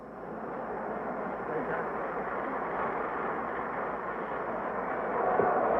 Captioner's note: audience laughs and applauds